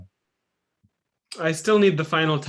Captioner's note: silence